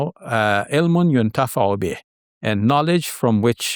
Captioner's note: speaks foreign language